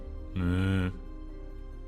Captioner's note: mooo